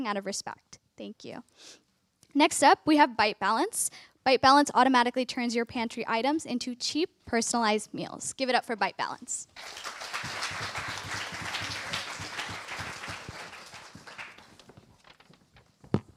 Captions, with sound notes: out of respect. Thank you. Next up, we have BiteBalance. BiteBalance automatically turns your pantry items into cheap, personalized meals. Give it up for BiteBalance. [APPLAUSE]